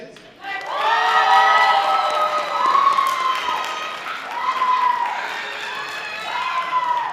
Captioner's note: audience applause; loud audience cheers